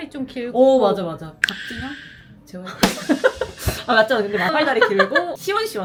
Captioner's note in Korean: 웃음